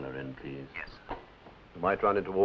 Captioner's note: on phone